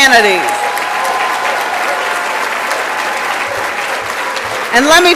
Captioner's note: applause and Cheering